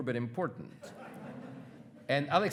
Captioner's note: attendees laughing